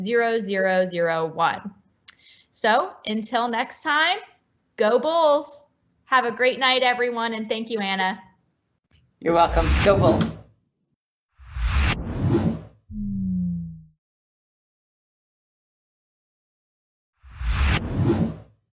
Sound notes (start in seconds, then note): 11.4 logo swooshes